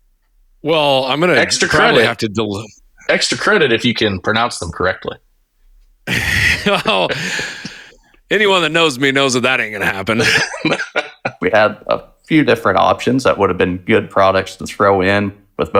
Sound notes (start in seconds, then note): 6.0 laughing; 9.7 laughing